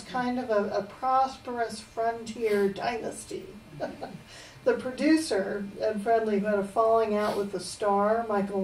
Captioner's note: laughs